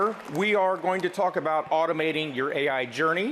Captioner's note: applause